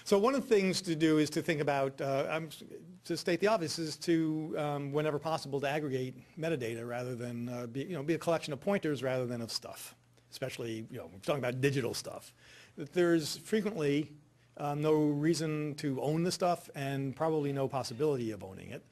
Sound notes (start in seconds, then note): none